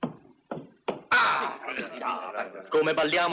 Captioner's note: groaning, muttering